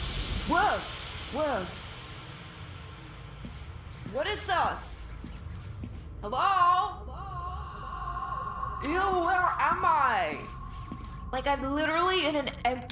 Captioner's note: echoes as he walks around